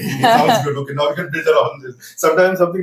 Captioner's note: laughs